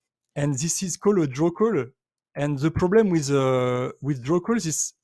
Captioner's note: none